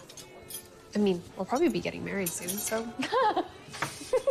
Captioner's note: laughs